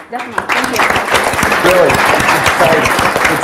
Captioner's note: audiences applauds